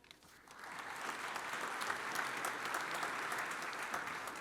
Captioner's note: audience applauds